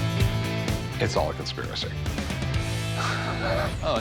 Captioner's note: laughs